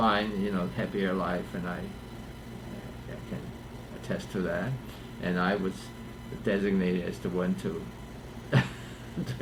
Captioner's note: laughs